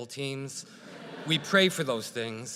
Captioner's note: audience laughs